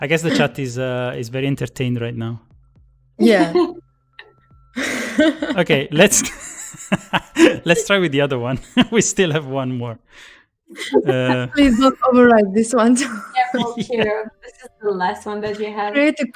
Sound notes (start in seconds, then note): 5.6 laughs